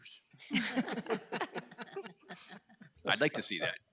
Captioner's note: everyone laughing